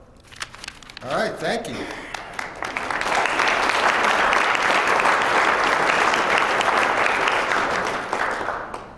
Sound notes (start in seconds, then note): 1.8 applause